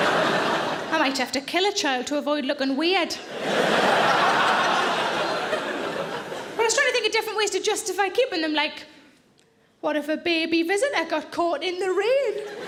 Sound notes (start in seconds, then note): 0.0 audience laughs; 3.2 audience laughs; 12.4 audience laughs